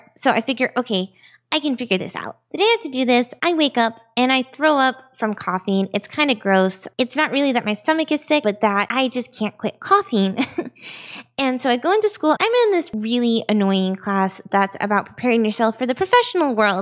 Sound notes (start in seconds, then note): 10.3 chuckles